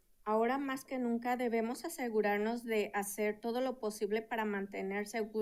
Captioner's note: speaking in Spanish